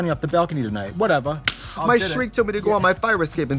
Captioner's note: Trixie slaps knee